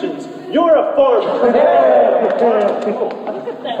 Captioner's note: crowd cheers and laughs